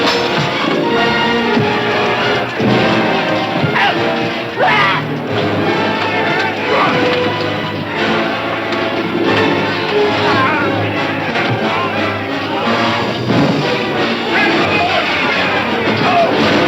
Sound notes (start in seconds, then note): 4.5 man screaming; 5.9 dramatic music continues